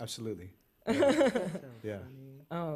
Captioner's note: laughter